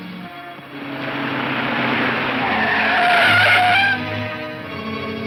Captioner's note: tires squealing; engine roars